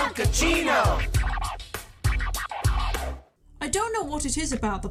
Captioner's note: record scratching